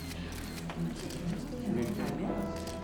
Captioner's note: spectators murmur